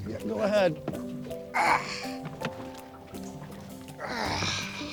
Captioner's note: grunting